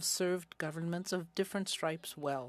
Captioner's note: speaking French